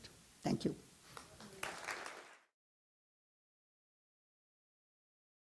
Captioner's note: audience applauding